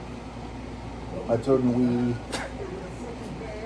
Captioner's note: laughing